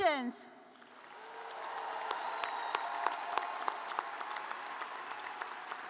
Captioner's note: audience applauds